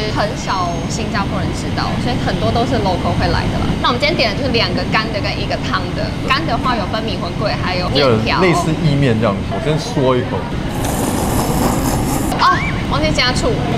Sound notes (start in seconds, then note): 10.6 slurp as respect